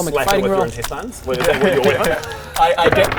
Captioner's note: squelch